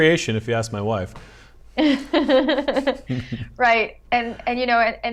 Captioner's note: laughter